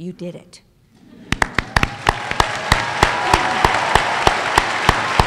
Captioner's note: applause